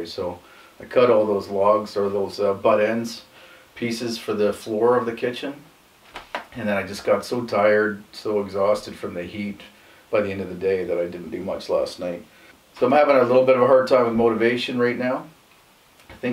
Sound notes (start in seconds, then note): none